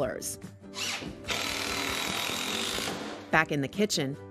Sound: drilling

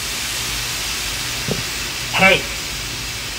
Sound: loud hissing

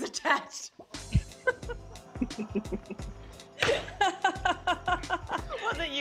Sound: laughter

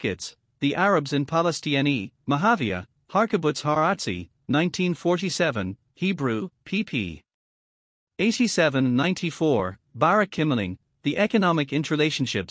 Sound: Hebrew

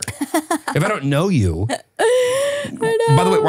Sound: laughing

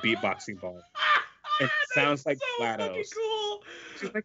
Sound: laughs

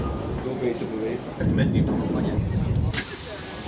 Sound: flight attendants talking; doors closing

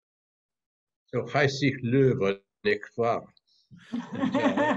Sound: non-english; laughter

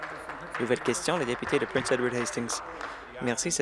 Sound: applause

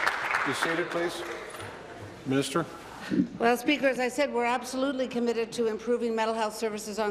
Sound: applause

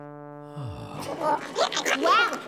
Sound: sigh; curious boggart noises

